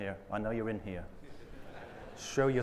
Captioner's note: audience softly laughs